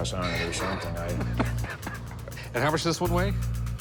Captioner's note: laughs